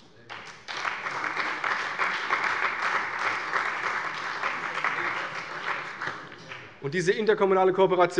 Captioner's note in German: Beifall bei der CDU und dem BÜNDNIS 90/DIE GRÜNEN